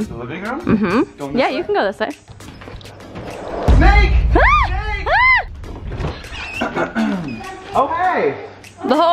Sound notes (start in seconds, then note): 5.1 yells